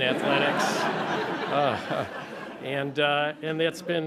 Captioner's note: laughter